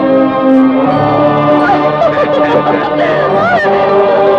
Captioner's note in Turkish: Keyifli kahkahalar